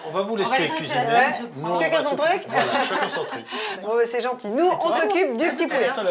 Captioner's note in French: rires